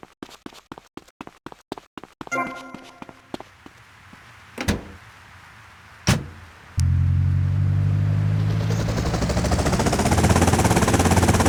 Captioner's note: footsteps; helicopter whirring